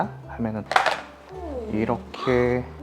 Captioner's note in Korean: 개체 꺼내는 소리